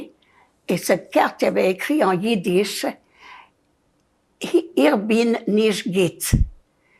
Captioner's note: yiddish